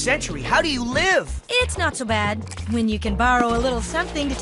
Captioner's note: none